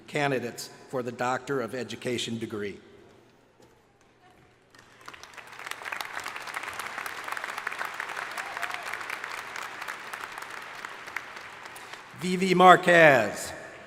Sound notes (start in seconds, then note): 4.7 crowd applauding